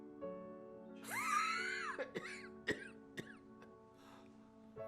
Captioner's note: coughing